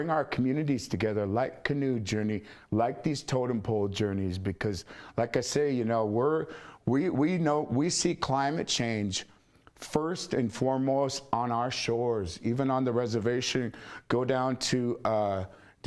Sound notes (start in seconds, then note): none